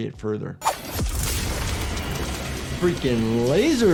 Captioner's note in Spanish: el rayo láser zumba; los escombros suenan